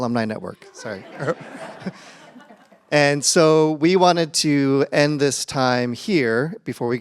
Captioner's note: laughter